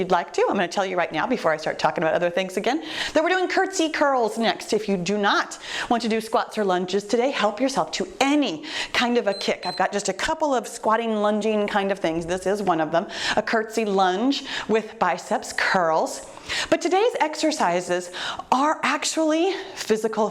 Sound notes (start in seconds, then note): 9.2 timer beeps